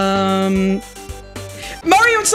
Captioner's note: gasp